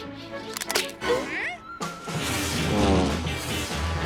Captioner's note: toy plane whirring; playful music; toy cracks; dramatic music; toy plane whirring loudly